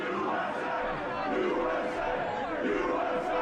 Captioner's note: crowd